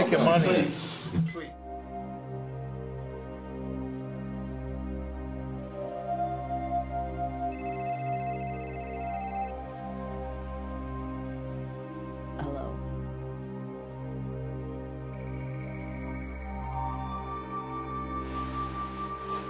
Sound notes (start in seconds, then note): 1.3 dramatic orchestral music; 7.5 cell phone rings